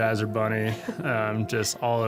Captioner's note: laughing